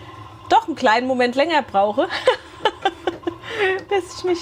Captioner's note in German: gelächter